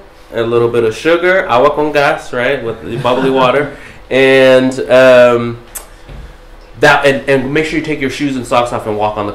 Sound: non-english

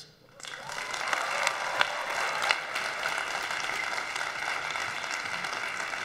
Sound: audience applauds; audience cheers

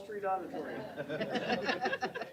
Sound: laughter

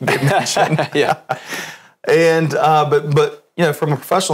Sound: laughs

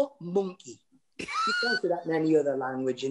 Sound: laughter

